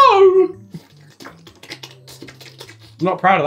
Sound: lapping

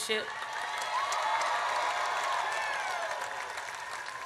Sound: audience cheers

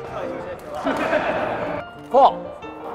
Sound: everyone laughs

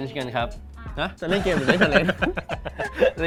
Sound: laughs

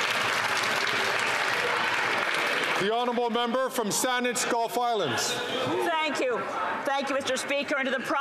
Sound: some Applause

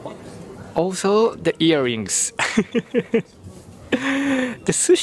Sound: chuckles

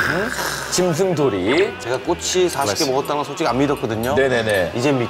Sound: slurp

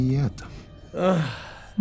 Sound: yawns of boredom

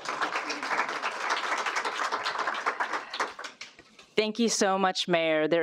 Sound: applause

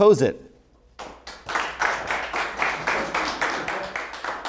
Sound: applause

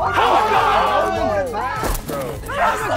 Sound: contestants yelling

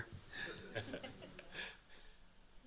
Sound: laughs

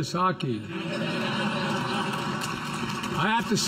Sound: laughter and applause

